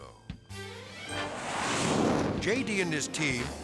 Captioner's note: jet whooshing